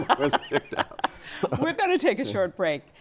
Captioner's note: laughter